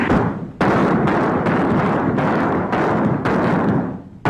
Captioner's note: guns fire